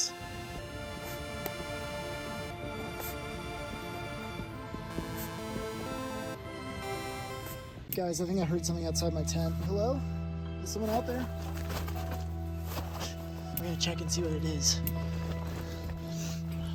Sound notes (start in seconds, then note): 10.6 rustling outside tent